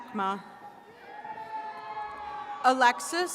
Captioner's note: attendees cheering